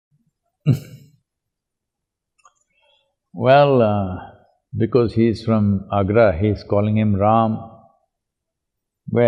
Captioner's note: laughs